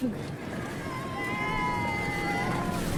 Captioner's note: cheers